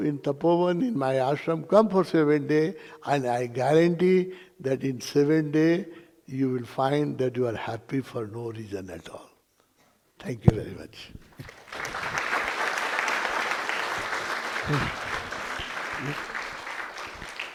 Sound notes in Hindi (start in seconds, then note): 14.5 तालियाँ